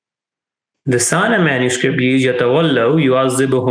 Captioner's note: speaking in Arabic